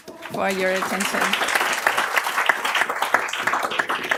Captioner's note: applause